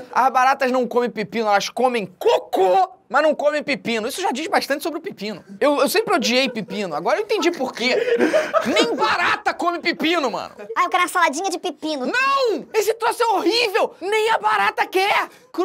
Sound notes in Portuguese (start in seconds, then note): 6.0 risadas; 9.8 gargalhadas